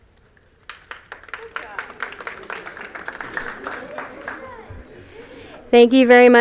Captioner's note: applause